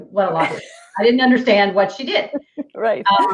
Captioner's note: laughing